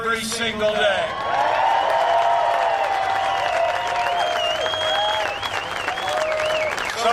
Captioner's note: cheering and applause